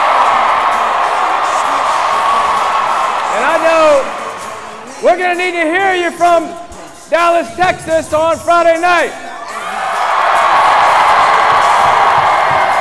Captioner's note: cheering and applause